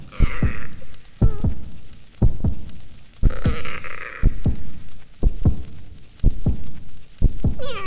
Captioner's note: painful yet contemplative struggling sounds from inside shell